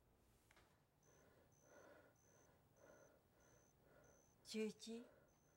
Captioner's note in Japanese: 荒い息遣い